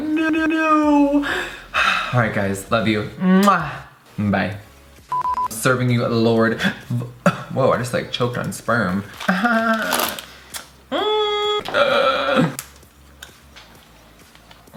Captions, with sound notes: I'm like noooooooo, alright guys, love you. Bye Serving you Lord Vo (coughs) whoa I just like choked on sperm.